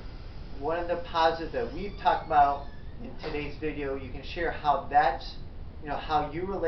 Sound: squeal of door again

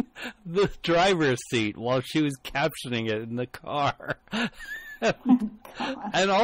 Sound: DJ laughs

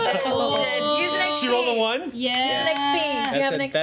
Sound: overlapping chatter

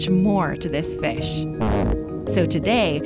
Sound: fart sound

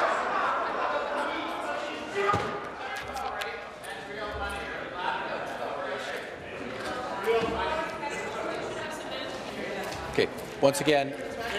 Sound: voice shouting

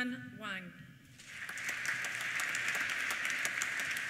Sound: applause

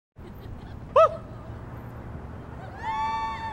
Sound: cheering; distant chatter

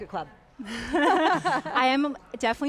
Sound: group laughs

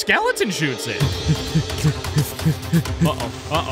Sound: panting

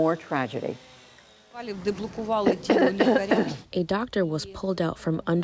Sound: through translator

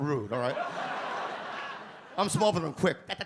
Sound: audience laugh

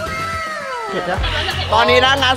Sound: sighs

